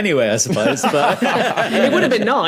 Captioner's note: laugh